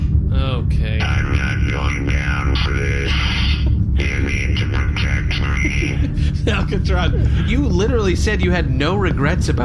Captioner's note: laughing